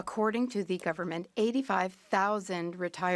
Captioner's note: speaking French